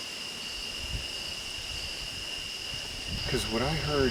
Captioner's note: wind whooshing